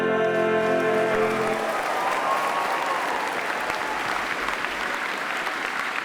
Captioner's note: attendees cheer and applaud